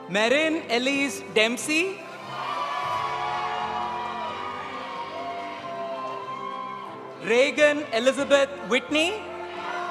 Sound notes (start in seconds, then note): 2.2 audience cheering; 2.3 audience applauding